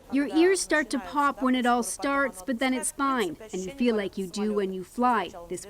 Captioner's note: speaking Foreign Language